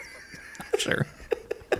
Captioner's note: laughing